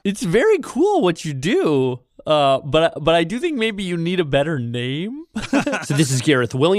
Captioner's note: laughs